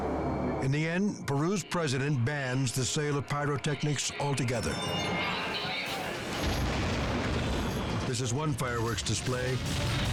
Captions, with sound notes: In the end, Peru's president bans the sale of pyrotechnics altogether. (fireworks exploding) This is one fireworks display